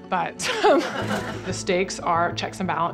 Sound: laughter

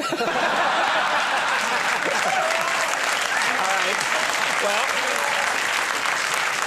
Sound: Conan laughs; audience laughs

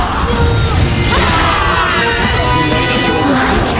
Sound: dominated scream

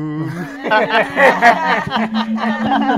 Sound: laughter

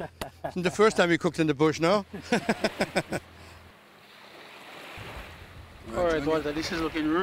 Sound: laughter

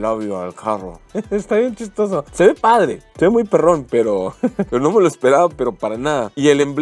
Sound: laughter

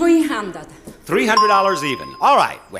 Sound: bell chimes

